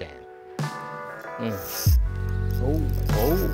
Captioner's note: fishing line whirring